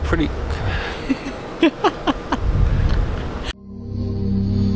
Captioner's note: laughs